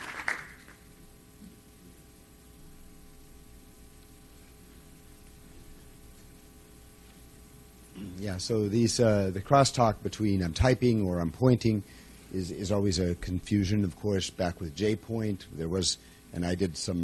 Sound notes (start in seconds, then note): 9.1 voiceover